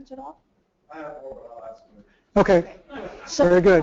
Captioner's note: laugh